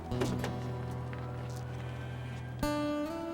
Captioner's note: door opens